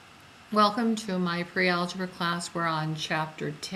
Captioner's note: voiceover